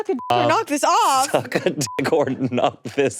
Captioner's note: beeps